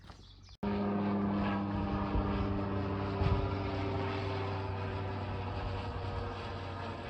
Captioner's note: microlight engine noise